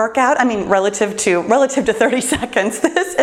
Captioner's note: laughs